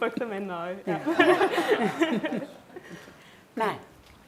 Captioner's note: laughing